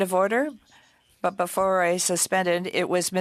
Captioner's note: speaking French